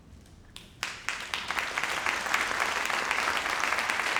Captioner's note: crowd applauding